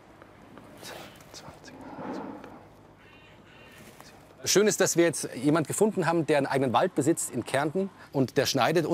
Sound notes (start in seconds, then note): 0.7 he counts in a whisper